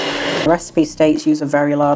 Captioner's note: cake mixer whirring